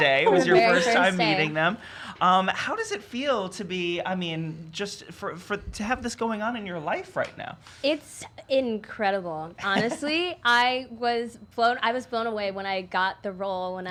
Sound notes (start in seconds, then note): 9.6 laughing